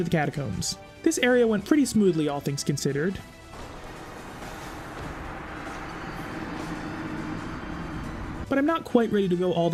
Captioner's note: anger noises